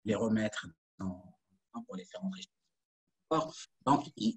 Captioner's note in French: coupure audio